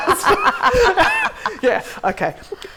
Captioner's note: laughter